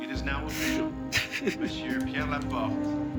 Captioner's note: Rene crying